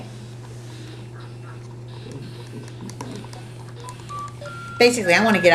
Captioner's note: calculator tones